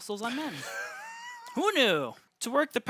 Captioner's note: laughs